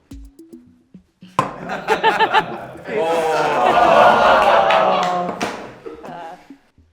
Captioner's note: laughter followed by sounds of disbelief